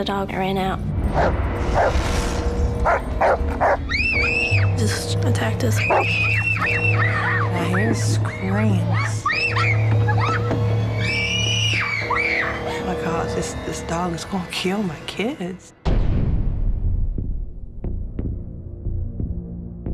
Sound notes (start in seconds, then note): 0.1 barks; 3.8 both scream